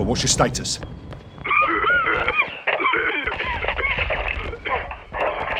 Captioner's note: the radio crackles and Marines are heard coughing from the crash